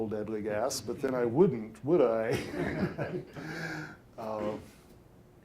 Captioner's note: all laughing